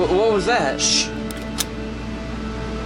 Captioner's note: cocks repeater